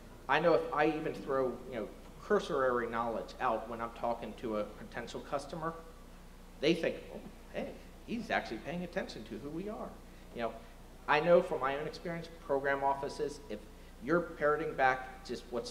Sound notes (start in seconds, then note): none